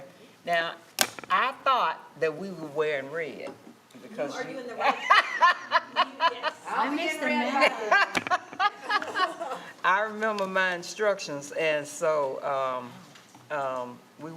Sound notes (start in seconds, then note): 4.8 laughing